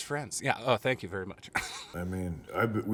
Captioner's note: laughing